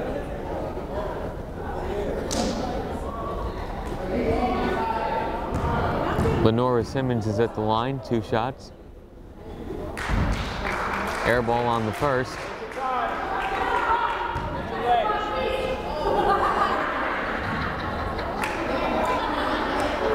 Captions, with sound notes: Lenora Simmons is at the line, two shots. (crowd applauding) Air ball on the first. (fans shouting) (fan laughing hysterically)